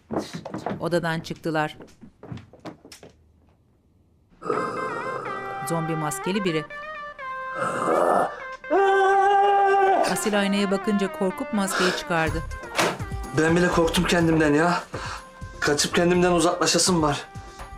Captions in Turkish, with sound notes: (Ayak sesi) (Homurtu sesi) (Bağırma sesi) Ben bile korktum kendimden ya. Kaçıp kendimden uzaklaşasım var.